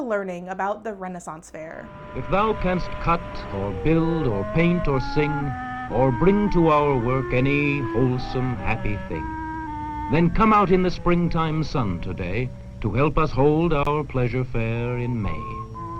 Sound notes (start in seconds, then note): 2.0 voiceover